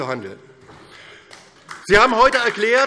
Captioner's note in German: Beifall DIE LINKE